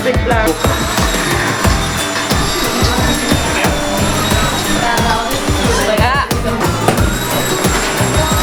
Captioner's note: loud factory noises over music and conversations